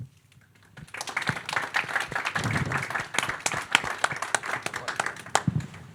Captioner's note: audience applauding